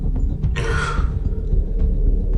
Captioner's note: sighs